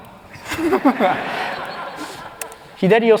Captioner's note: laughter